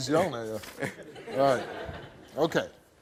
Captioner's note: audience laughs